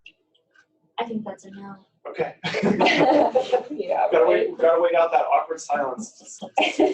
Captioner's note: laughter; laughter